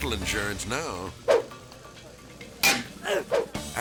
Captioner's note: metal clangs; transition whips; person grunts